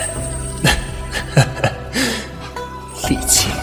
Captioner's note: Lanyuan laughs